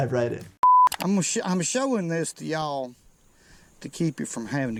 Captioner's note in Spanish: clic